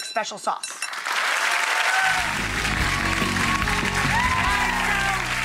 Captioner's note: audience applauding